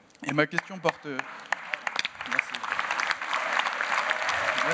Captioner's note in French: Applaudissements